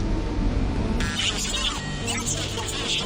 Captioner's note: radio interference